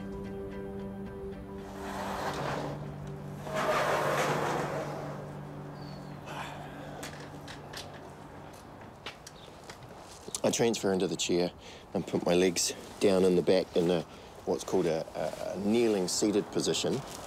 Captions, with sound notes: (GARAGE DOOR SCRAPES) I transfer into the chair and put my legs down in the back in what's called a kneeling seated position.